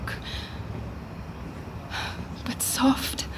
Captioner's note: distant footsteps